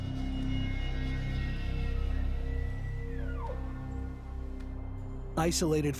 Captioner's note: Elk calling